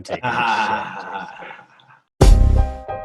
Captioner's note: laughing; upbeat hip hop music